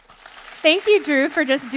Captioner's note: audience applauding